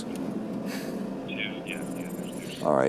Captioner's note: on phone